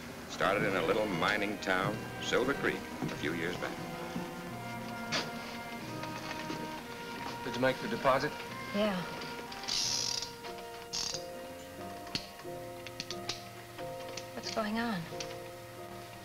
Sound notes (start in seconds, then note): 9.6 gun clicks